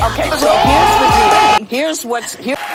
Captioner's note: crowd: OHHHH; audience groans